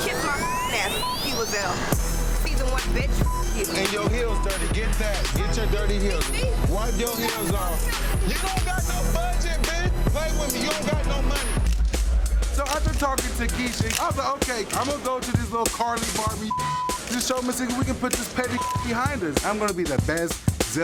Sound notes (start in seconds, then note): 3.8 tense dramatic music; 11.8 thumping hip-hop music; 12.5 cameras clicking